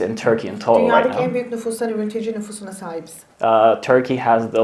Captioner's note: speaks in Turkish